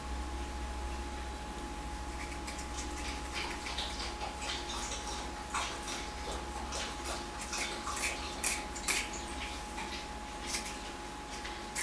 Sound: sound of drinking water in the background

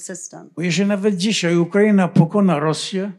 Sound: foreign language

